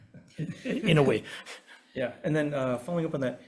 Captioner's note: chuckles